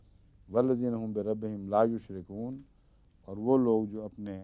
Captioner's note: Arabic